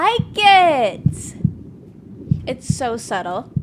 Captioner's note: heartbeat